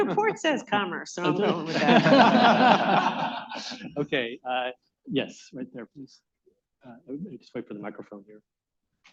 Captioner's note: laughter